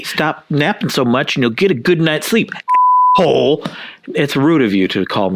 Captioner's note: beep